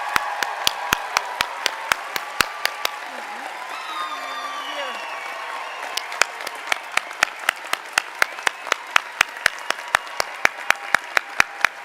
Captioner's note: cheers and applause